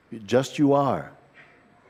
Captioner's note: none